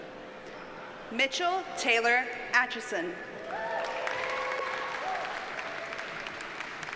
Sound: audience cheers and applauds

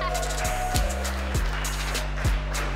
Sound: laughing; crowd cheering

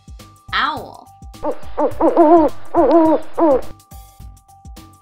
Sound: owl hooting

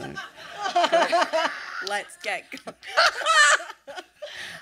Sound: laughter

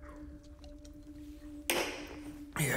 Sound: glass clanging

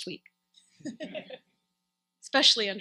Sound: laughs

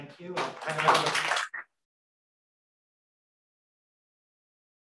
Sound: audience clapping

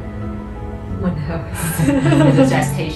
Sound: laughing

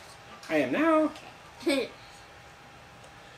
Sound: chuckles

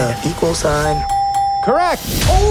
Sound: bell dinging

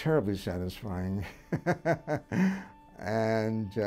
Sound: chuckling

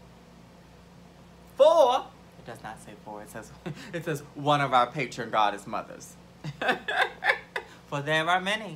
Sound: laughs

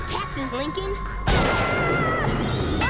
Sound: screaming

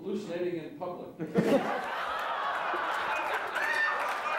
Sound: laughter

